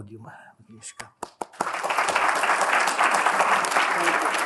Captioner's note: applause